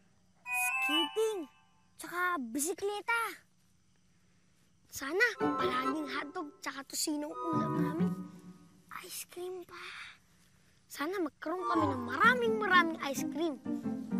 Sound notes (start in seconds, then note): 8.8 whispers